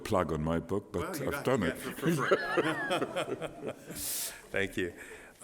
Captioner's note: laughter